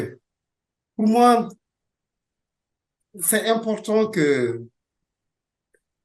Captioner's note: speaking French